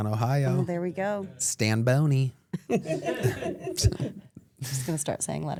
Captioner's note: laughs